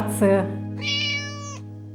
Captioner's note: meowing